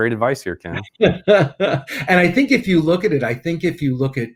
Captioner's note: laughing